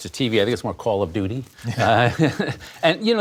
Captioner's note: laughter